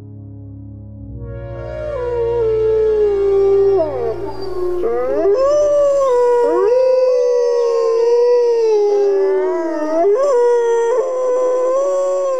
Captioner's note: wolves howling